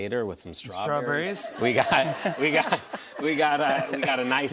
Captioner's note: laughter